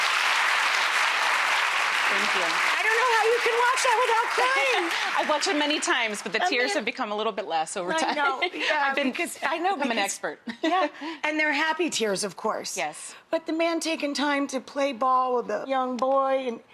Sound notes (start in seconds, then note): 0.0 crowd claps; 3.8 laughs; 8.3 laughs